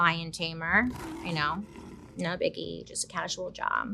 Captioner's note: lion roaring